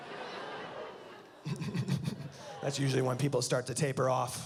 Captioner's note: laughs